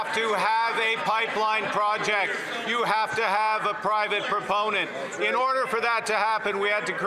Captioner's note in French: voix de l'interprète